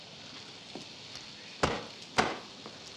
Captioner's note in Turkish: şapka vurma sesi̇